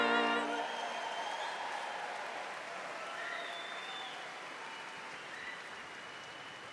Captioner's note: audience applauding and cheering